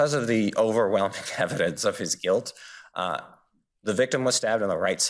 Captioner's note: laughs